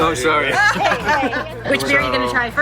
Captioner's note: laughing